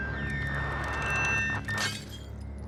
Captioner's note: glass shatters